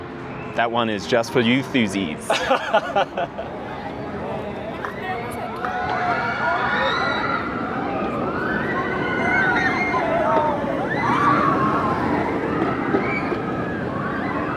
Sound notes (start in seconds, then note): 2.2 laughs; 6.0 screams